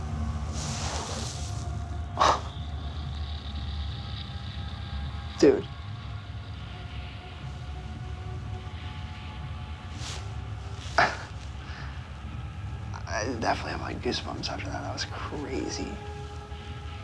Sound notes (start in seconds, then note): 2.1 exhales; 11.0 chuckles